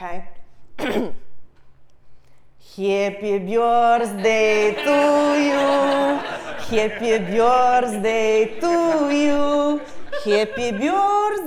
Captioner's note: cough; foreign